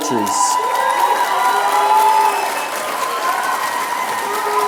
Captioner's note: applause